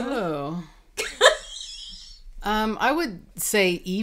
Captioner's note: laughing